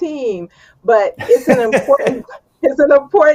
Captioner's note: laughs